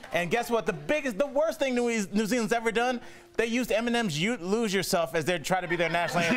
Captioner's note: laughter